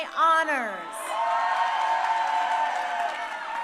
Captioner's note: crowd cheering